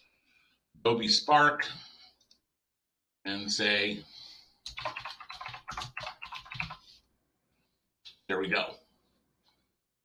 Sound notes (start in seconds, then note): 4.6 typing